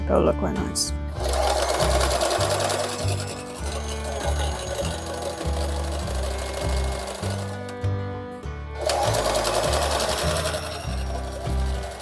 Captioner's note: sewing machine noises again